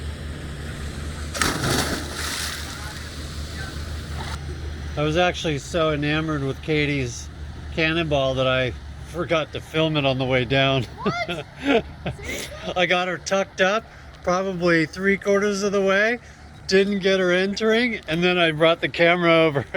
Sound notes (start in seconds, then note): 9.4 laughing